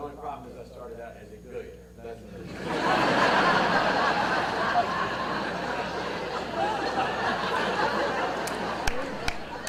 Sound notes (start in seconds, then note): 5.4 audience laughter